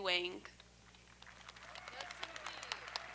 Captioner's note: audience applauding; audience cheering